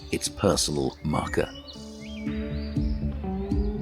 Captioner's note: birds chirping; soft music